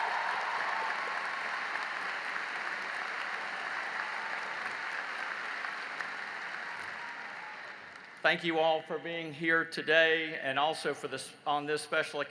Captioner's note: applause